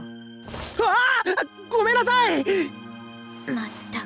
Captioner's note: panicked cry